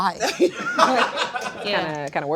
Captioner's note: crew laughing